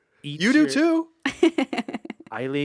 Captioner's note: laughs